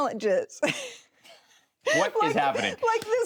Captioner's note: chuckles